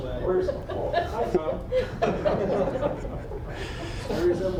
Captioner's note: audience chuckling